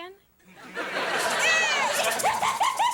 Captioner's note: audience laughing; Morgan laughing maniacally